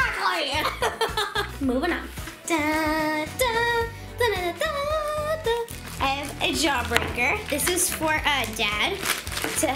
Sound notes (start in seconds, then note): 3.0 humming Star Wars theme